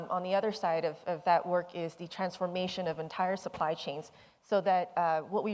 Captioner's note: none